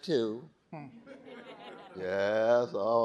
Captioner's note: audience laughing